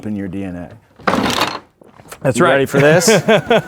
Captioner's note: objects clattering